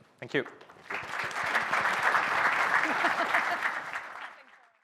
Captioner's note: applause